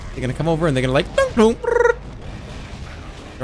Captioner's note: 3 stooges noises